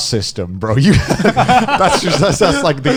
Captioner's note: all laughing